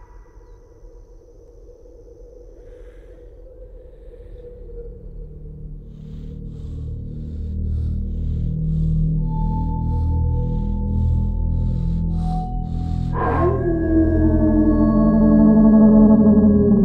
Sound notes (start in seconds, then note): 3.9 panting; 12.9 werewolf howling